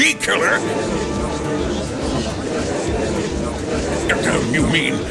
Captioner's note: gallery chattering